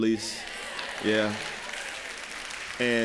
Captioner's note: applause